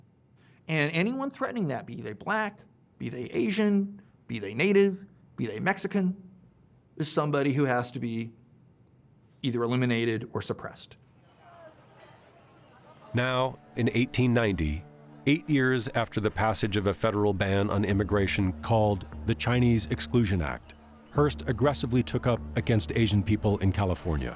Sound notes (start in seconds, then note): 10.9 crowd clamoring